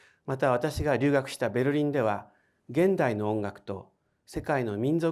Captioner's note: speaking in foreign language